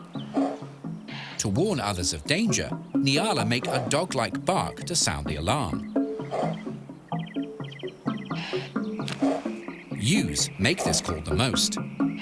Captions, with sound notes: To warn others of danger, nyala make a dog-like bark to sound the alarm. (SOFT BARKING) Ewes make this call the most.